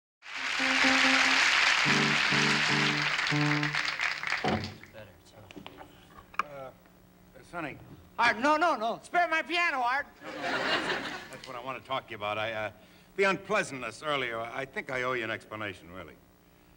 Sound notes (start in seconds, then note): 0.2 applause; 10.2 laughter